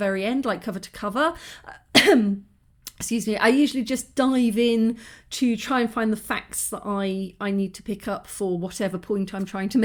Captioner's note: cough